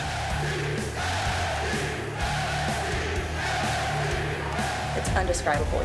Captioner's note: crowd cheering